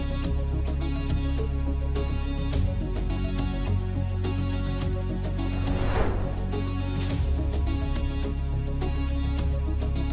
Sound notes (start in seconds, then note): 1.7 suspenseful music continues; 5.4 transition whooshing